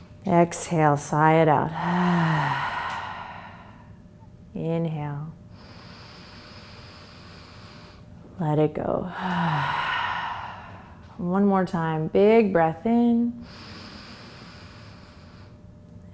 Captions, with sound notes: Exhale, sigh it out. (exhales) Inhale. (inhales) Let it go. (exhales) And one more time, big breath in. (inhales)